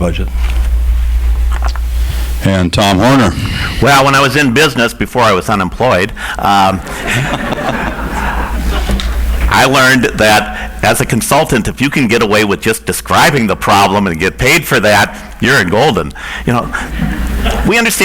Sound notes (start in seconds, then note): 6.4 audience laughs; 16.7 audience laughs